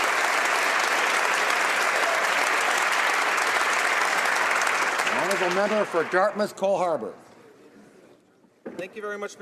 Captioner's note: some Applause